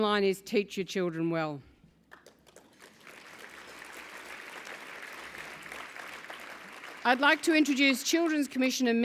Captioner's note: applause